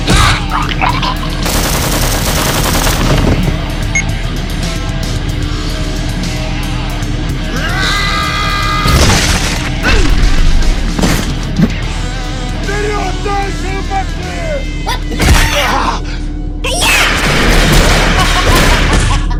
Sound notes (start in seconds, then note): 8.0 raging Scream; 12.6 Carbuncle Guard Yelling at Jade